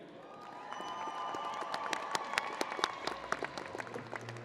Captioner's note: crowd applauding